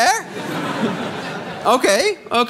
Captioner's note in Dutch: gelach